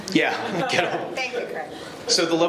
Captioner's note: laughing